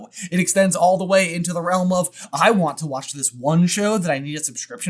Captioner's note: none